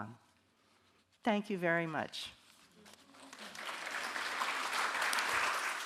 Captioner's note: audience clapping